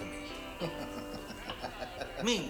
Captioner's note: laughing